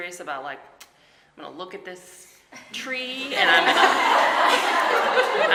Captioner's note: audience laughing